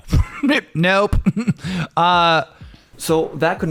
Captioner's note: chuckles